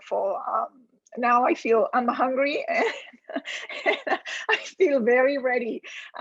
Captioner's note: laughs